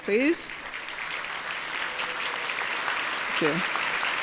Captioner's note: applause